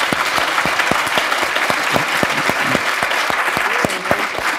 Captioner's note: applause